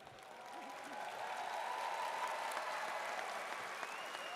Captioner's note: audience cheers